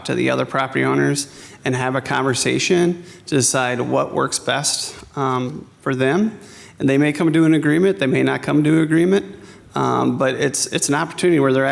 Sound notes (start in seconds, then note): none